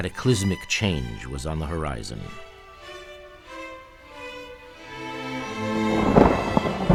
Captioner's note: crashing thunder